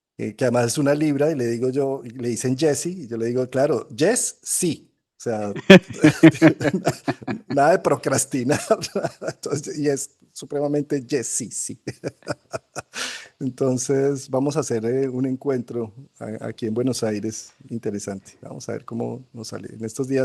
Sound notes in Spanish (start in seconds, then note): 5.4 risas